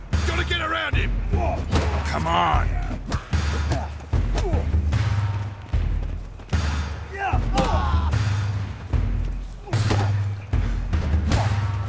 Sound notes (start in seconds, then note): 2.7 punches land, groans